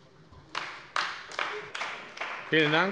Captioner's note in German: Beifall bei der CDU